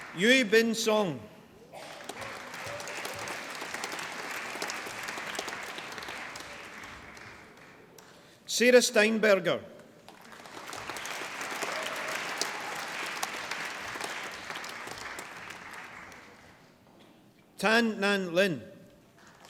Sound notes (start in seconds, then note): 1.7 applause; 9.8 applause